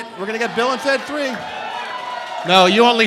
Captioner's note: cheering